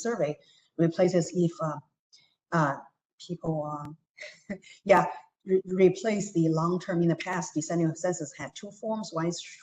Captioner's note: laughter